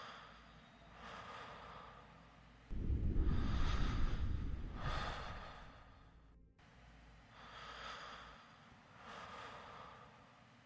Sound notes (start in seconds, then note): 2.9 frightened breathing